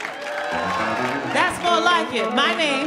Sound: audience cheers

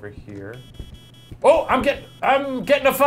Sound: device beeps

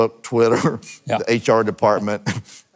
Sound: chuckling

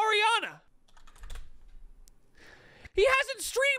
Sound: keyboard clacking

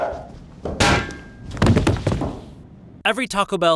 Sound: metal clattering

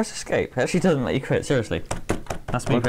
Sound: key tapping

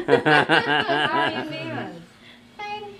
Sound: laughs

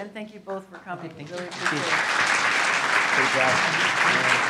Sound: applause

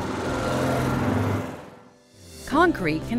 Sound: vehicle passing

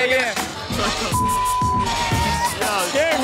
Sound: beep

